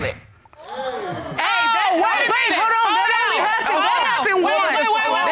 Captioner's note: audience gasps